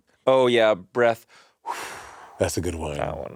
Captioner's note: exhaling